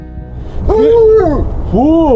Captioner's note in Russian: лай собак